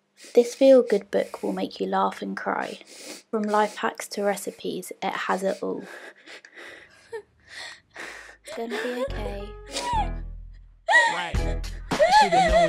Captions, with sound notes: This feel-good book will make you laugh and cry. From life-hacks to recipes, it has it all. (Minnie does a small laugh and continues sobbing). It's going to be ok. (Minnie sobs louder).